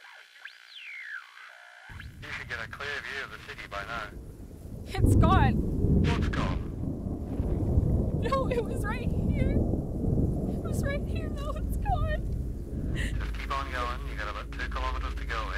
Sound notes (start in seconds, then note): 12.5 whimpering